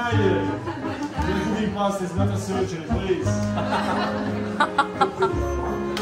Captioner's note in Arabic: هاها